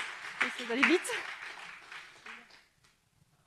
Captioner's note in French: Applaudissements